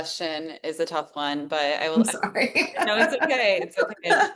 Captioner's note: laughs